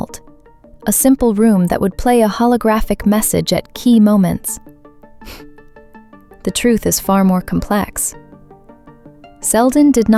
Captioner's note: scoffs